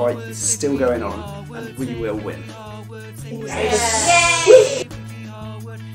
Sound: background cheers

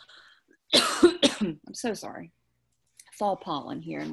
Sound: coughs

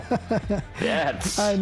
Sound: laughing

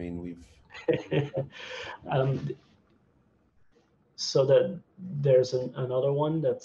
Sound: laughing

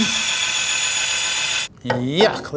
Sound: Kurara washer whirring

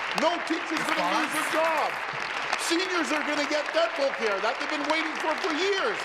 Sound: applause

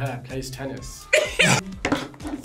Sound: both laugh

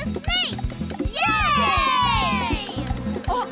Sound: cheering

